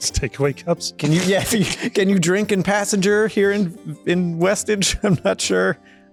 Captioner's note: laughter